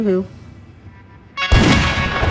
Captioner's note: gunshot